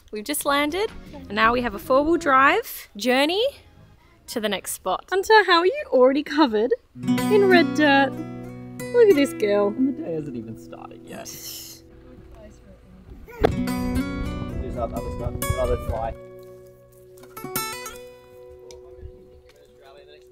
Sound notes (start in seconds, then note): 8.3 guitar music; 13.4 door thuds; 13.6 guitar music; 16.1 speaking faintly